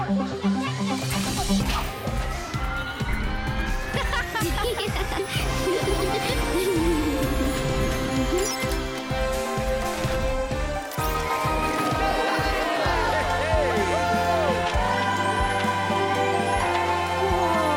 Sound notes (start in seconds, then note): 0.1 whirring and clicking; 3.8 laughter; 6.5 beep!; 10.9 cheering